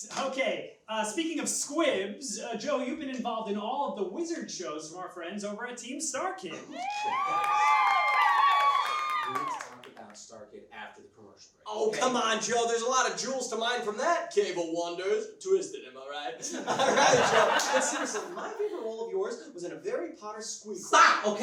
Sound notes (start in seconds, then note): 6.8 applause; 16.4 laughs